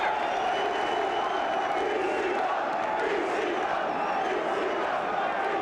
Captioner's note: crowd chants "ECW"